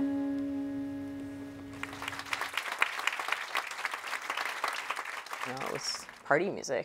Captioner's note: applause